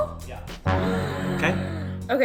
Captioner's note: gasp